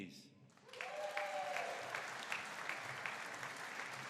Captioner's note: audience cheering